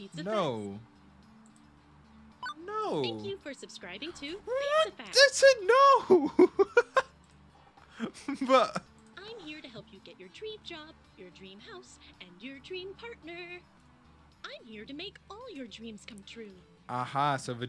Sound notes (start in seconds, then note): 5.8 laughs